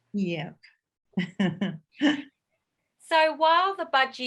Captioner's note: chuckles